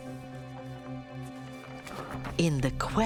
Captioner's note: suspenseful music; turning page